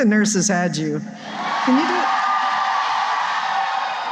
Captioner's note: cheering